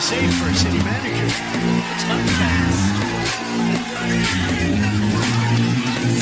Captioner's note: Aplauze